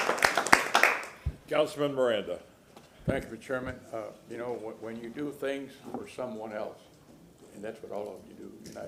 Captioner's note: applause